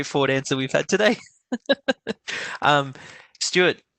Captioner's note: laughs